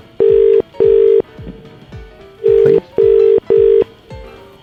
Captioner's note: dial ringing